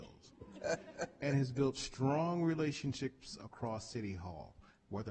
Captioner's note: chuckling